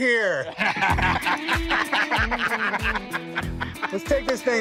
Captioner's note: laughter